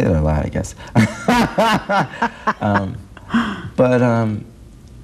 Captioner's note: laughing